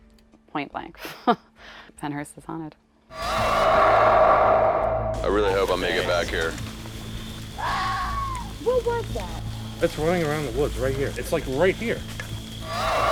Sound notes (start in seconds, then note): 1.1 laughs; 7.6 animal screech